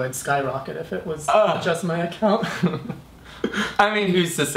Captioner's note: laughs